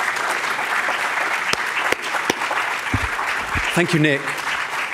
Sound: audience applauding

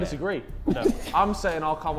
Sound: Sidemen laughing

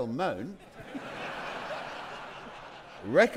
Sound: audience laughing

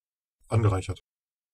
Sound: fast Pronunciation

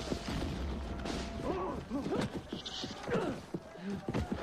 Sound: grunts

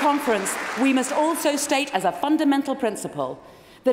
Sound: applause

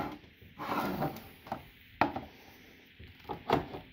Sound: more cans clattering and sliding

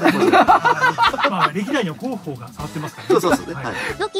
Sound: laughs

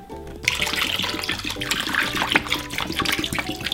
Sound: water pouring

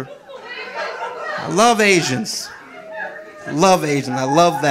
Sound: audience laughing

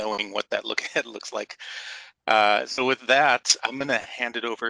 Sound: laughter

